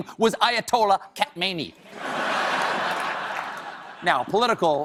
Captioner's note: laughter